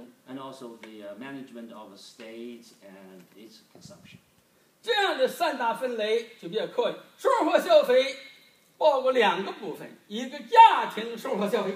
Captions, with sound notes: And also, the management of the states and it's consumption. (speaking foreign language)